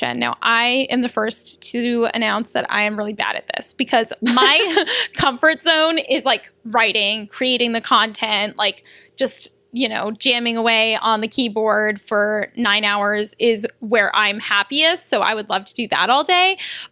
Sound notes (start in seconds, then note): 4.2 laughter